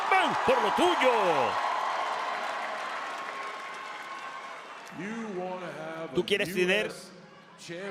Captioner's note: applause